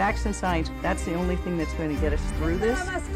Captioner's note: woman speaking in Spanish